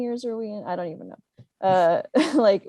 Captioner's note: laughing